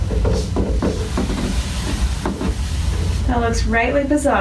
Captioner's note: thumping Noises